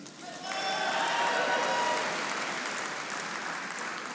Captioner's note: audience applauding